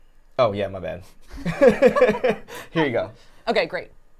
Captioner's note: laughing